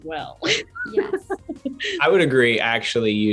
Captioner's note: Joey laughs